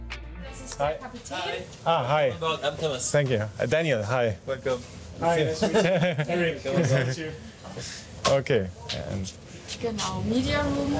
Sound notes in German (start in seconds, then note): 5.6 Lachen